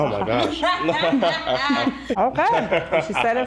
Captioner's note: speaking in foreign language; laughing